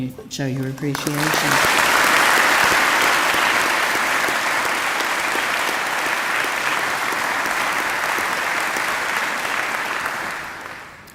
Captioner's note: appluase